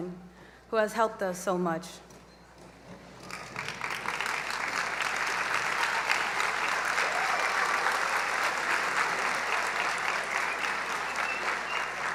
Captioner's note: applause